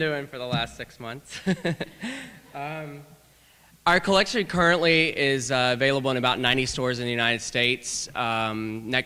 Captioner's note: laughter